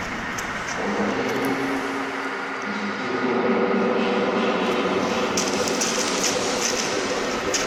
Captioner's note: loud and distorted